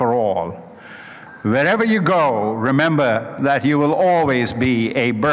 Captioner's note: none